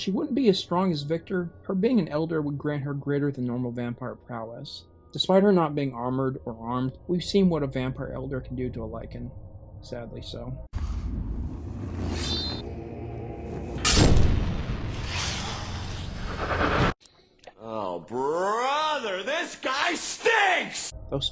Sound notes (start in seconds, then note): 13.8 sword pierces; 14.6 hisses